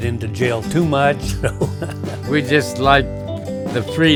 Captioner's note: laughs